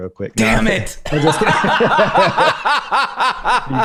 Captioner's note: laughter